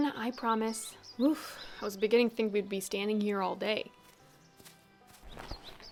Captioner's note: playfully